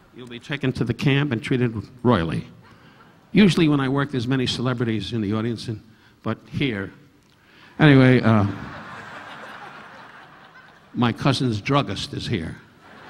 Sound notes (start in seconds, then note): 8.3 audience laughing; 12.8 audience laughing